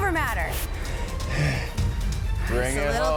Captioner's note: wheezes